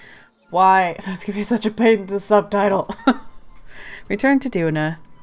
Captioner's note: laughs